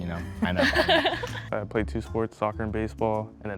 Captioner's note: laughter